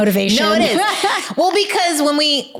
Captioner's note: laughing